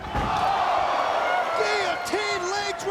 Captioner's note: crowd gasps